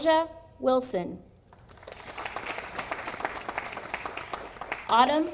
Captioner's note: audience applauding